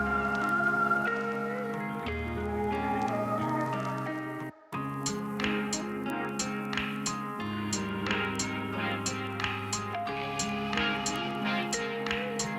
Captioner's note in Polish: Aplauz